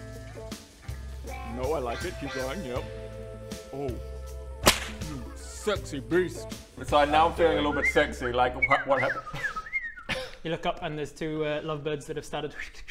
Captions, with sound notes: No I like it, keep going yep Oooh *SMACK* You sexy beast So I'm now feeling a little bit sexy like what happens? *tweeting* You look up and there's two lovebirds that have started